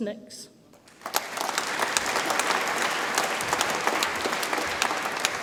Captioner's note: audience applauds